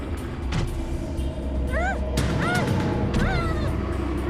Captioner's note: muffled grunts